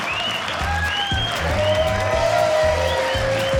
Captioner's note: audience Laughing; audience Cheering